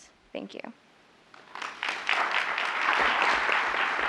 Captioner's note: applause